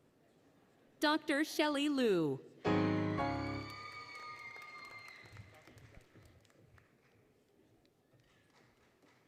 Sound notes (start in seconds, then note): 2.8 applause, Cheering; 2.8 applause, Cheering, Music